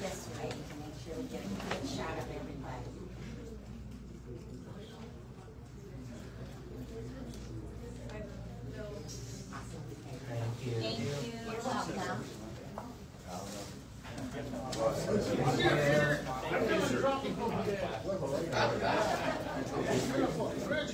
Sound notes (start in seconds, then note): 13.1 indistinct chatter; 18.7 audience laughs